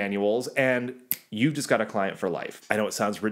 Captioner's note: snaps